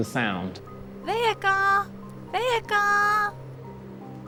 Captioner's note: speaking portuguese